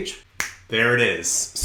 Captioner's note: snaps fingers